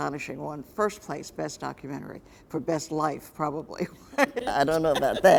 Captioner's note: laughs